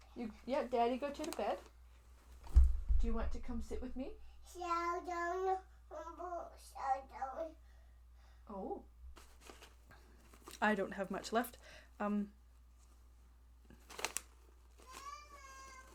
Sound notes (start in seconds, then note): 13.6 paper-rustles